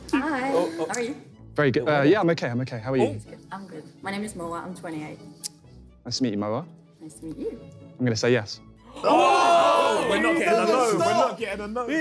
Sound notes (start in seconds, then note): 8.9 guys cheering